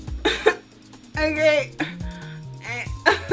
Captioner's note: nervous cough